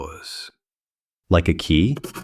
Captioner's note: SFX: pencil